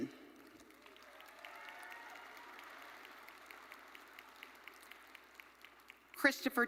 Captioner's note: audience cheering and applauding